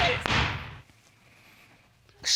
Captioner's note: gavel banging